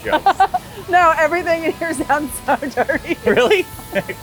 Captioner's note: laughs